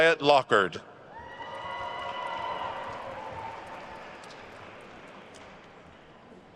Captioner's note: attendees cheering and applauding